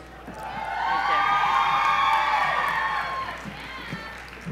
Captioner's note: audience cheering